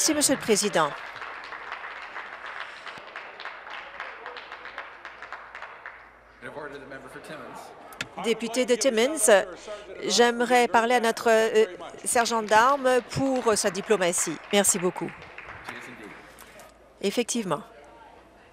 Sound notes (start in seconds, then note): 6.4 applause